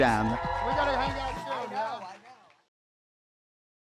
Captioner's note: crowd applause